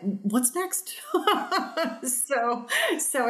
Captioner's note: laughs